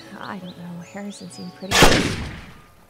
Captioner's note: gunshot